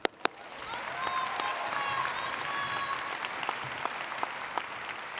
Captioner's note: audience applauding